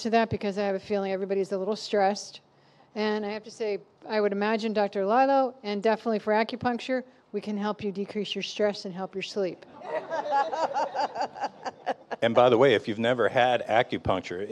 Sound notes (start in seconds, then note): 9.7 laughing